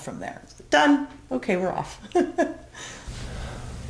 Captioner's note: laughs